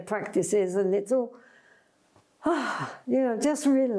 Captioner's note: sighs